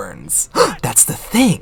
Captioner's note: gasp